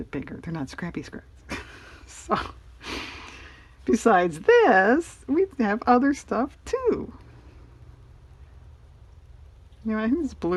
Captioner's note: laughs